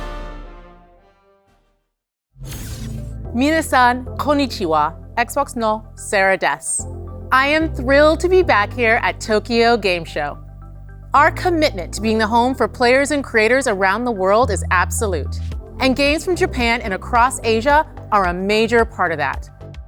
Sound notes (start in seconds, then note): 3.4 speaking Japanese